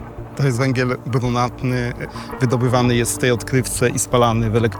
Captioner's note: dramatic music; speaking Polish